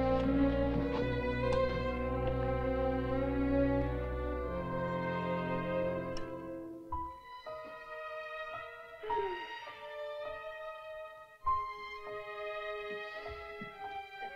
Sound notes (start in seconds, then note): 0.1 shoes softly clattering; 4.1 ominous music; 8.9 softly exhales; 10.5 ominous music